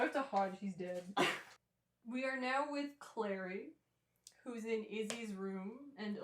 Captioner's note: laughter